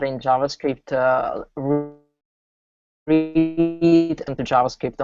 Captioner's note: audio cutting